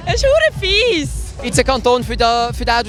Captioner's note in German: lachen